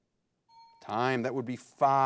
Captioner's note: bell chimes